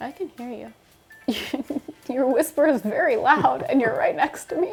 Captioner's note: laughs